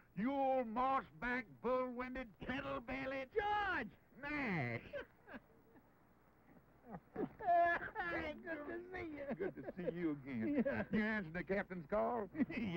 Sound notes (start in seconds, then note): 6.4 laughing